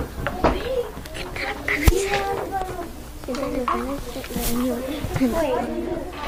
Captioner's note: student speaks softly